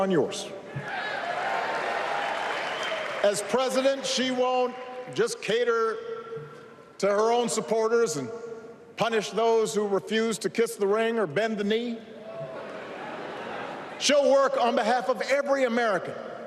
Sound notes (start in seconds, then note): 0.9 applause